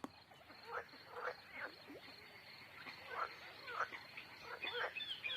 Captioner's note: frogs croaking